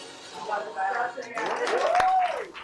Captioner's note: indistinct chatters; cheers and applause